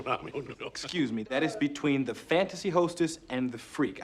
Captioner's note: chuckling